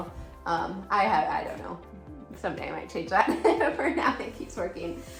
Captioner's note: laughing